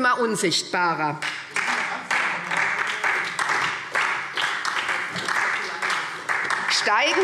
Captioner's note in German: Beifall SPD